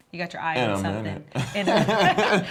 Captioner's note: laughs